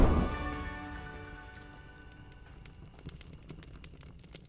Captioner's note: fire crackling